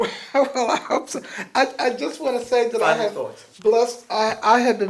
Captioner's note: laughs